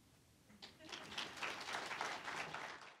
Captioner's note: applause